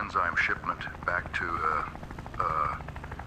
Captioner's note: sighs